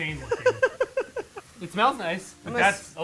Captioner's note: laughing